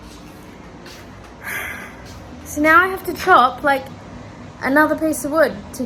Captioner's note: sighs